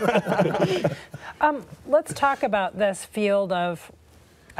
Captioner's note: laughter